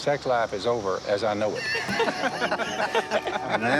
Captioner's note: laughter